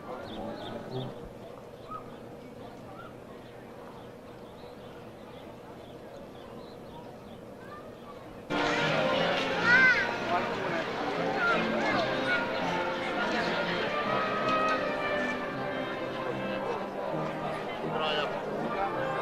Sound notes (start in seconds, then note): 0.0 birds chirp; 0.0 overlapping chatter; 3.3 birds chirp; 8.5 slow baroque music; 9.1 overlapping chatter